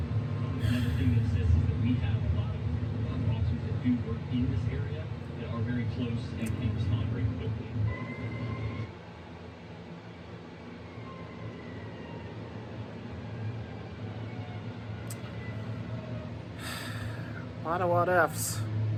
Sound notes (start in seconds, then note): 5.6 on TV; 8.2 police sirens wail on TV